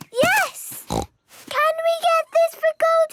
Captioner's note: snorts